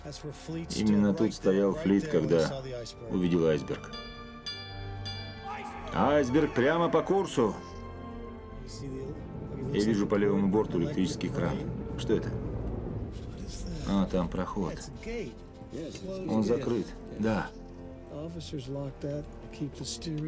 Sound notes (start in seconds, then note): 3.8 bell dinging